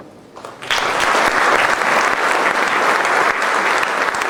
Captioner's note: crowd applauding